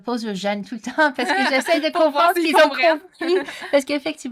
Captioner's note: laughs